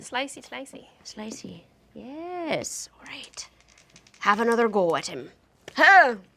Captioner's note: dice roll